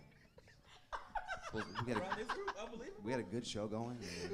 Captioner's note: laughing